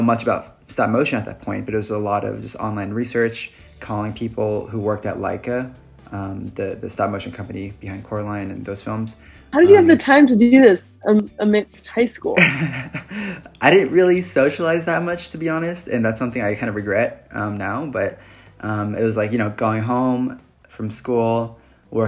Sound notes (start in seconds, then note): 12.4 laughs